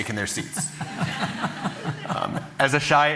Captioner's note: laughter